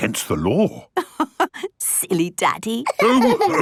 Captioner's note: laughing